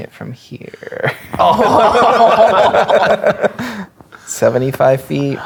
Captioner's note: players laughing